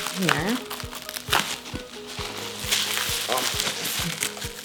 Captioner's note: bubble wrap crinkling